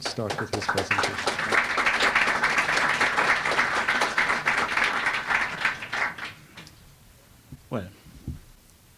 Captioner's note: applause